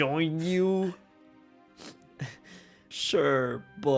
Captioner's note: sobs